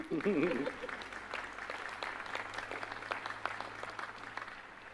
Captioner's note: applause